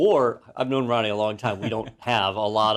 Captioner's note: laugh